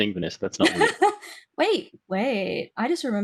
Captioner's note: laughing